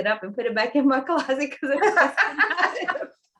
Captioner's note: laughter